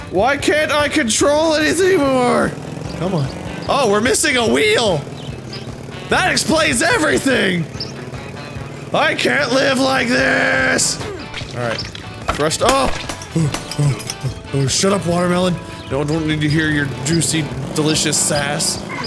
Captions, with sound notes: why can't I control anyth- eh- more come on oh, we're missing a wheel that explains everything! I can't live like this! alright fresh sta- (grunting) shut up watermelon no one's wanting to hear your juicy delicious sass